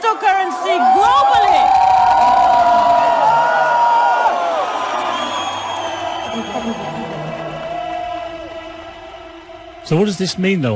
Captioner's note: Gritos - Aplausos - Euforia